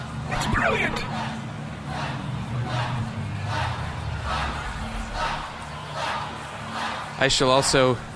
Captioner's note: whispering